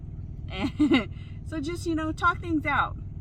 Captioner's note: chuckles